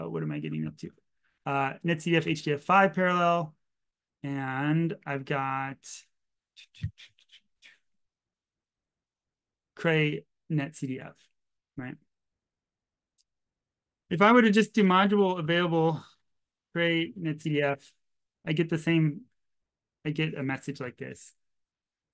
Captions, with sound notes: What am I getting up to? netcdf5 parallel, and I've got (chitters) cray-netcdf, right? If I were to just do module available cray-netcdf, I'd get the same, I'd get a message like this, right?